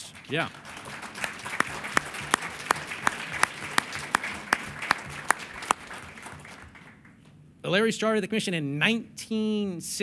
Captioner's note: applause